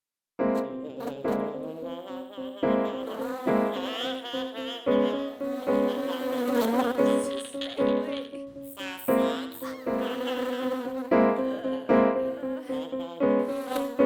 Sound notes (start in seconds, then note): 1.1 laughing and buzzing